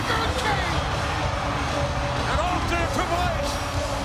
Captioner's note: applause